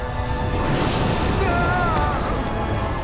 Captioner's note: screaming